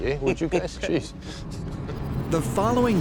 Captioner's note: laughter